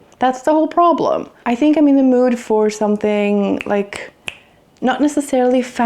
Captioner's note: snaps fingers